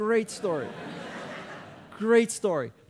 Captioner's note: audience laughing